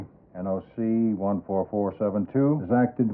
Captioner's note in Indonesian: none